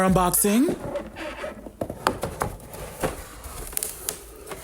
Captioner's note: box squeaking; board creaking